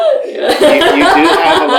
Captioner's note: laughter